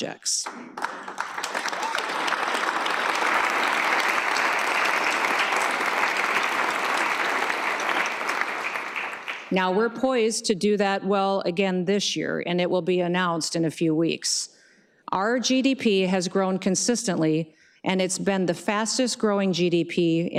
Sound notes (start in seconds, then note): 5.0 applause